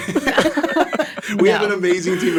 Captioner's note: all laugh